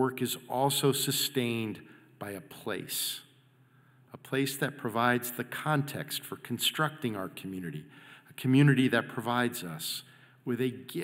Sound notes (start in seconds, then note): none